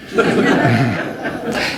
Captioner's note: laughter